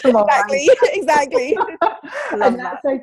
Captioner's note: both laugh